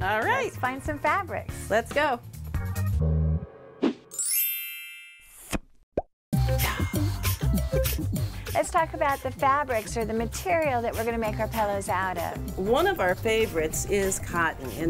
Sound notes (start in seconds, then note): 4.1 chime; 4.3 pop